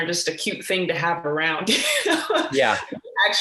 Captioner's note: laughs